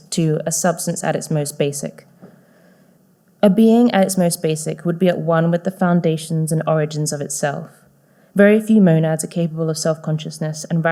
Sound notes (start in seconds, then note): none